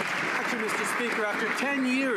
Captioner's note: some Applause